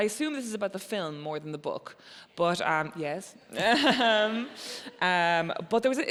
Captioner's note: laughs